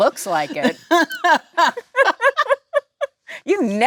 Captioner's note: Jennifer and Lisa laughing